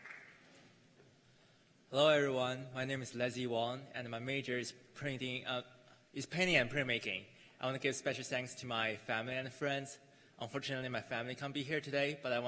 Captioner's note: cheers and applause